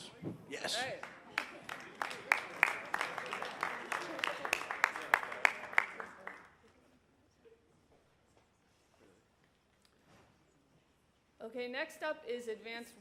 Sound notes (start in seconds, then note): 3.5 applause